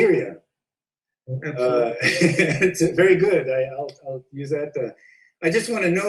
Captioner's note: laughs